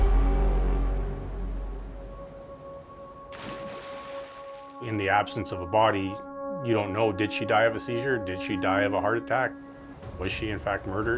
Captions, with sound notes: (water splashes) - In the absence of a body, you don't know, did she die of a seizure? Did she die of a heart attack? Was she in fact murdered? Without any other forensic evidence available,